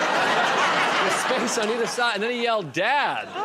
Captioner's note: laughter